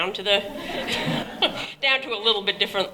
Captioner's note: laughter